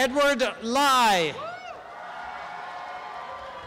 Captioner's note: applause and cheering